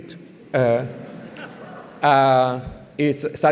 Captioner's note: laughter